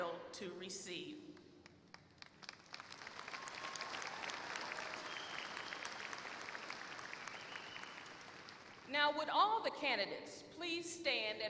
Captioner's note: applause